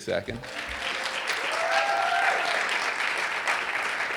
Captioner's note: audience applauding